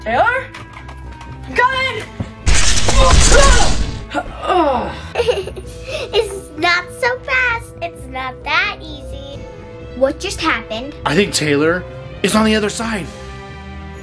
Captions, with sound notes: - Taylor? I'm coming! (yells) (groans) - (laughing) Not so fast, it's not that easy. - What just happened? - I think Taylor is on the other side.